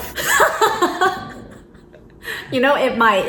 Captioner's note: laughs